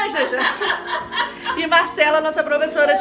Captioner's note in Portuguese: risos